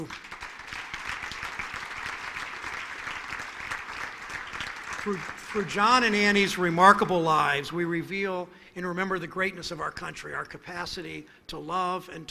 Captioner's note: applause